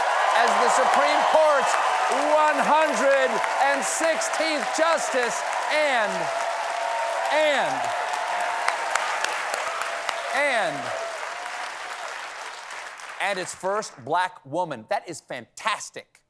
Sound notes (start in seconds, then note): 6.1 cheers and applause